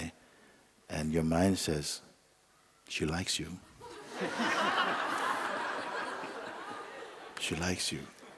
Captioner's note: laughter